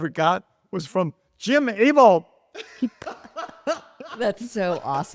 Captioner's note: laughs